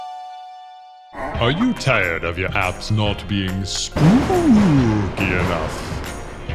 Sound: spooky voice; thunder

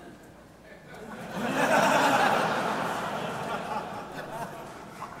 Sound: audience laughing

